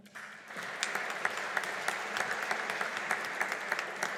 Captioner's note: audience applauding